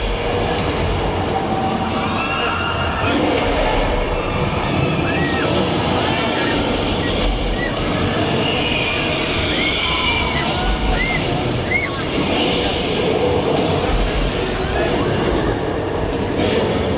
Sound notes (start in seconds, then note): 3.4 King Kong roaring; 9.1 people screaming